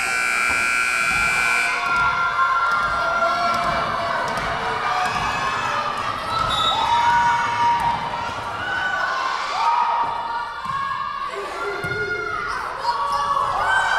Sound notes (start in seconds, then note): 0.0 buzzer buzzing; 6.3 whistle blowing